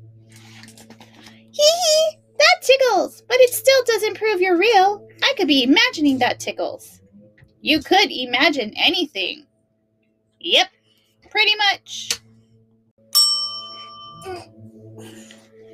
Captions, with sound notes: Heehee! That tickles! But it still doesn't prove you're real! I could be imagining that tickles! You could imagine anything. Yup! Pretty much! (bell dings)